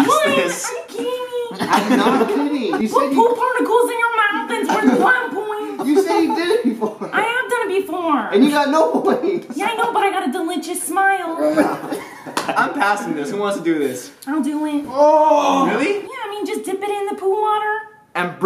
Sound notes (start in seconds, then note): 0.0 laughter; 9.0 laughter; 11.4 laughter